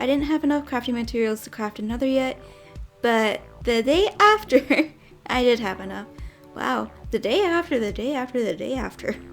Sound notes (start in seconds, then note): 4.4 giggles